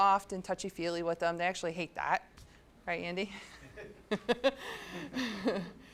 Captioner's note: laughs